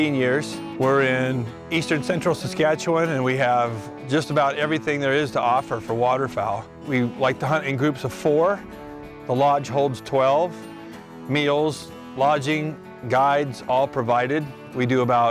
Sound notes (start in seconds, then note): none